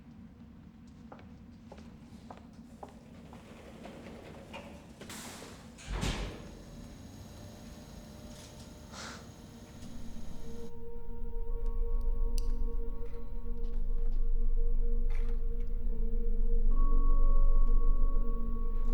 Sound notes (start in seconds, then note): 1.6 shoes clacking; 5.8 elevator thuds; 7.9 elevator whirring; 11.2 gentle ominous music